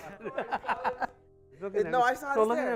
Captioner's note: laughter